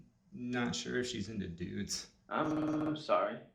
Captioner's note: digital distortion, stuttering